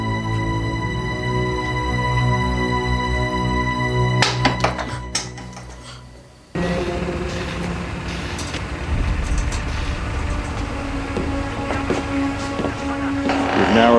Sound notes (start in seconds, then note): 4.4 rock banging; 6.4 motors running; 10.7 ominous music